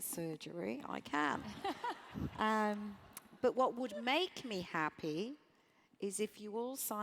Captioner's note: laugh